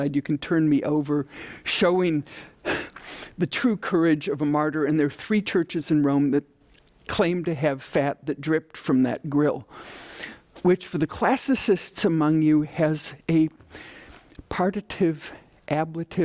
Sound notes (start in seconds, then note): 14.0 speaking in foreign language